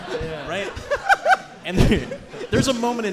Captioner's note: audience and hosts laughing